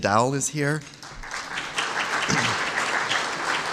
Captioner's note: applause